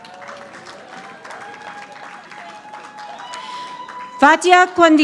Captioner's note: audience applauding